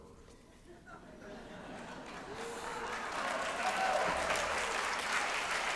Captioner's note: applause